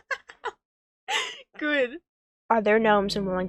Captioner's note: laughs